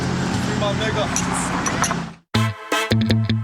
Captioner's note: chattering